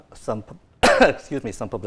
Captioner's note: coughing